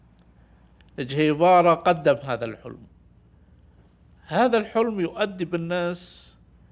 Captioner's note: speaking in Arabic